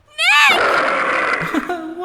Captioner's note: tiger roars!